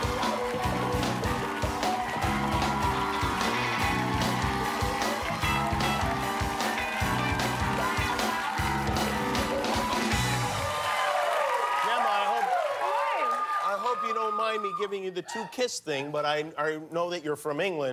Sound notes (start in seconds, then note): 0.0 cheers and applause